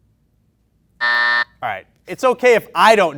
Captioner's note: beep